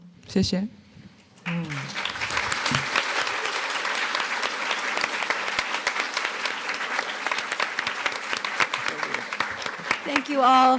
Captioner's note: applause